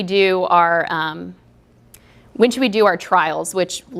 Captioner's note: pause